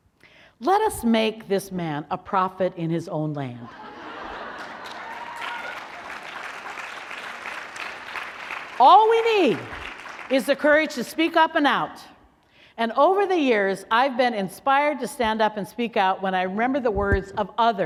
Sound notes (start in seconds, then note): 3.6 laughter; 4.5 applause